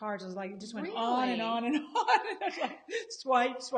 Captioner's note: laughs